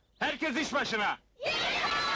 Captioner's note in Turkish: çocuk kalabalığı